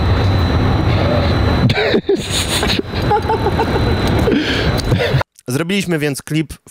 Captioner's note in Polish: śmiech